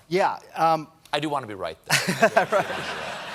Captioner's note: laughter